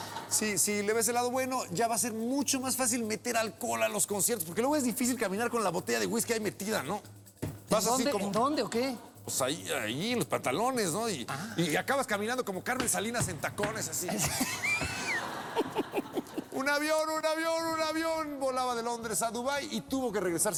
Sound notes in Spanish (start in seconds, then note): 14.0 risas